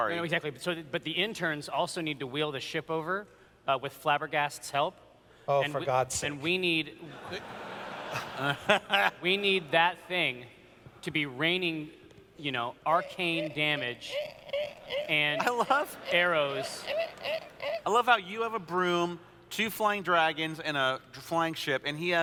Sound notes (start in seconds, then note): 7.0 laughter; 14.8 squeaking sounds as he moves ship